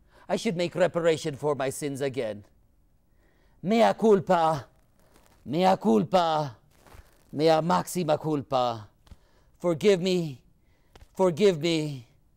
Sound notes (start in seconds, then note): 3.7 speaking in foreign language